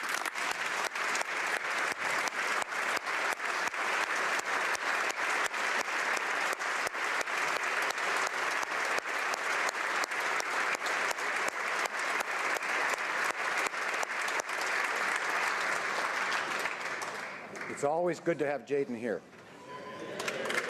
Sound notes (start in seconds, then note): 6.2 applause